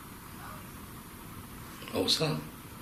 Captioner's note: child crying